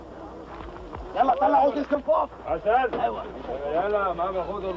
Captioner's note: shouting in Arabic